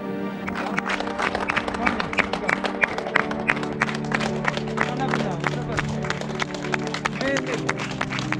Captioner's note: applause